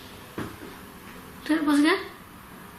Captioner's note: quiet tapping